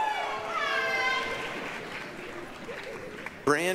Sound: applause, cheering

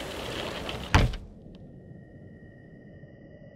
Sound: rain stops

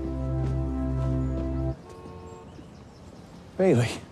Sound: horn honks

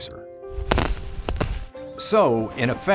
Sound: bag tearing

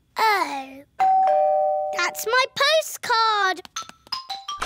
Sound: doorbell rings

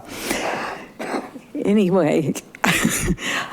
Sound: chuckling

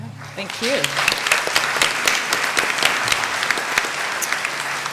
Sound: applause

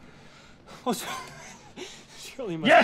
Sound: laughs

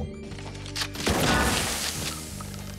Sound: gunshot

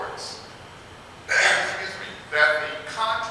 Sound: coughs

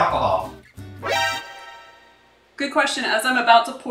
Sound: alarm rings

